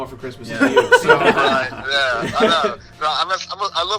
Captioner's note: laughter